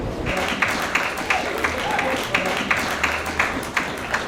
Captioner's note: audience clapping